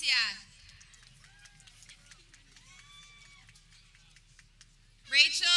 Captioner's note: people clapping